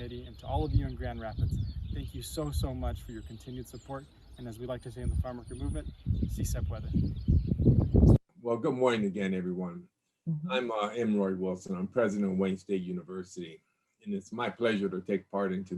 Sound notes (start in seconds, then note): 6.3 speaks Spanish; 6.3 wind whirls